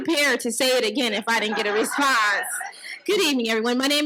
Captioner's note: audience laughs